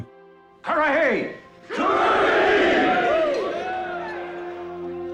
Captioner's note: crowd cheering